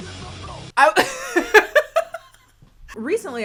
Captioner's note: laughs